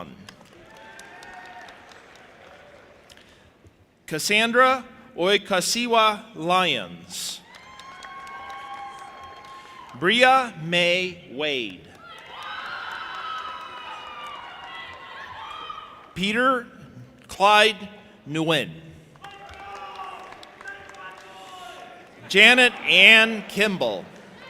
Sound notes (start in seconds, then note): 0.3 audience applauding and cheering; 7.4 audience applauding and cheering; 11.9 audience applauding and cheering; 19.2 audience applauding and cheering